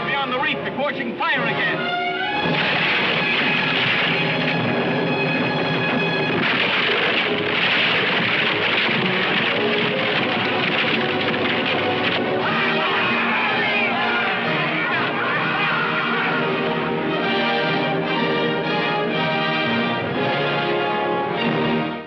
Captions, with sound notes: she'll be on the reef before she can fire again. (wood crunching) (cheering)